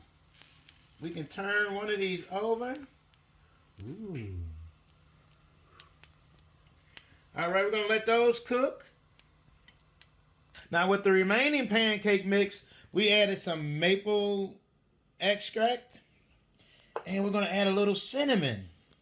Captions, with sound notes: We can turn one of these over (exclaims). All right, we're gonna let those cook. Now, with the remaining pancake mix, we added some maple extract and we're gonna add a little cinnamon.